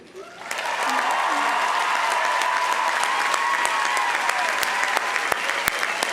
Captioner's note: audience applauding; audience cheering